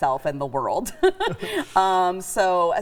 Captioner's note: chuckling